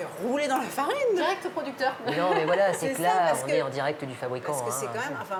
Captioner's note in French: rires